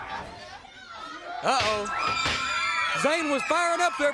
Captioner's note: crowd cheering